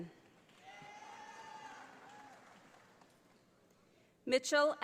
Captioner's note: audience applauding